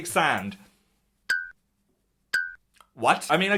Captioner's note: blinks chime